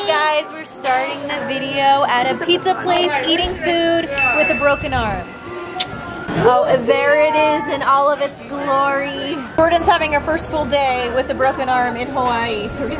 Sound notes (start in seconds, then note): 4.2 bell chimes; 5.7 tongue clicks